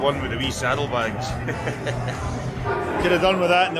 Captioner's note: laughter